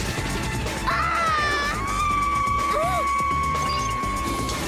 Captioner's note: screams